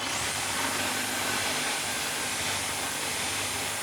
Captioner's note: saw grinding